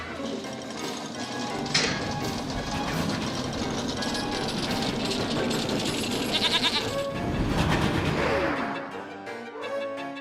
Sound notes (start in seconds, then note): 6.2 bleats